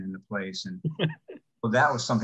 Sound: laughs

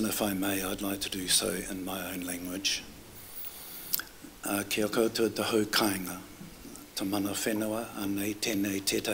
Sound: foreign words

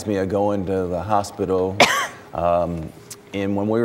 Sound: cough

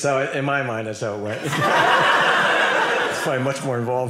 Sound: audience laughing

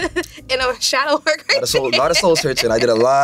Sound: laughs

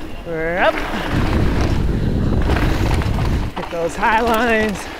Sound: wind blows

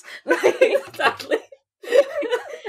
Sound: laughing

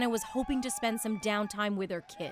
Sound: cheers and Applause

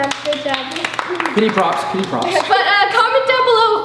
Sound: claps

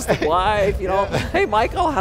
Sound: laughter

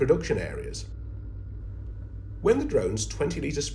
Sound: drone humming

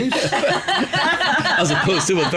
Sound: laughter

